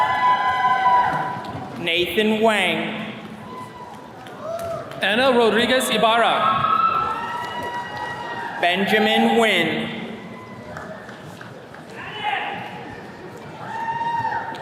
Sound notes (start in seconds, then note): 0.0 attendees cheering; 3.2 attendees cheering; 10.2 attendee claps and cheers